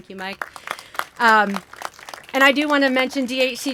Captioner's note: applause